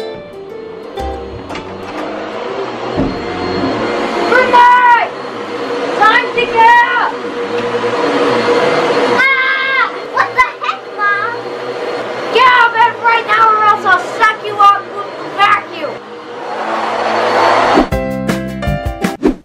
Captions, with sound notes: [vacuum running] [yells] Brinley [yells] time to get up [vacuum running] [yells] ahhhh what the heck mom [yells] get out of bed right now or else I'll suck you up with the vacuum